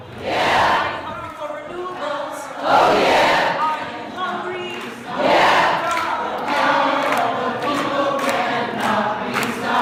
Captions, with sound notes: [Crowd Yells] Yeah! Are you hungry for renewables?! [Crowd Yells] Oh, Yeah! [Crowd Chanting] The power of the people . . . . . . cannot be stopped!